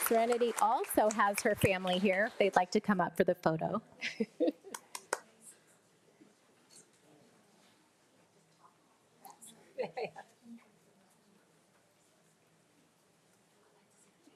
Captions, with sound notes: Serenity also has her family here if they'd like to come up for the photo. (attendees chattering)